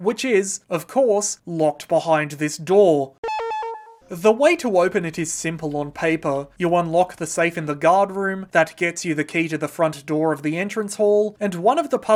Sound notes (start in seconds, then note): 3.2 condescending beep